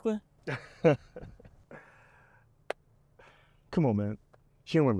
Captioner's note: Harrison Jones laughs